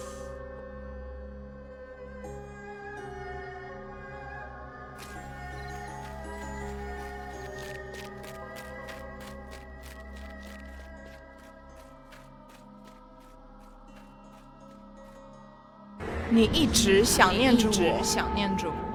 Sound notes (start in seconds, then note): 7.6 the rhythmic sound of bare feet pattering against the rough gravel; 18.0 Mandarin language